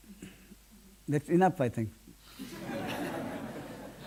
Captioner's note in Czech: smích